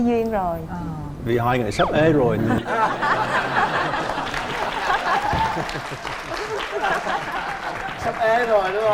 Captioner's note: laughing